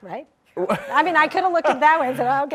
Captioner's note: David laughs